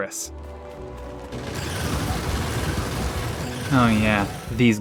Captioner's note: disgusting Alien Noises